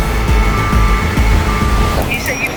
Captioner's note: tow truck beeping; upbeat action music continues